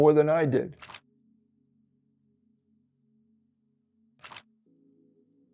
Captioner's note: camera clicking